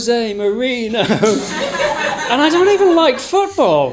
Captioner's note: audience laughing